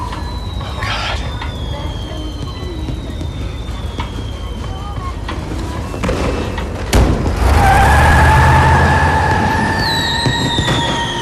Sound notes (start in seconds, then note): 7.2 tires screeching